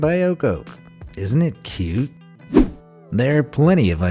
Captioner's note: air whooshing